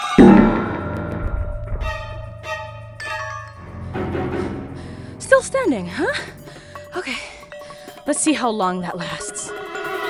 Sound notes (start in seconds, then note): 0.0 playful music; 0.3 suspenseful music; 6.6 panting